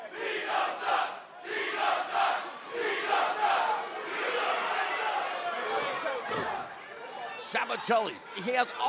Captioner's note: crowd cheering